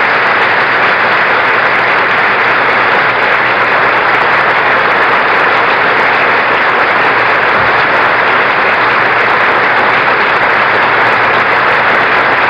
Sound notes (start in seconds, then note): 7.9 applause continues